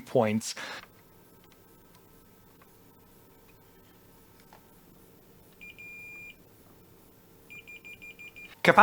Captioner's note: beeping